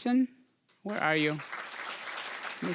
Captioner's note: applause